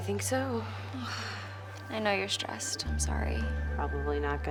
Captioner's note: sighs